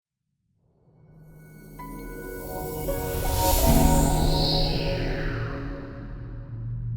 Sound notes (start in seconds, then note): 2.0 chiming tones